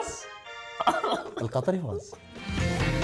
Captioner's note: laughs